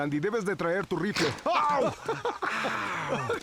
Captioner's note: yells; laughs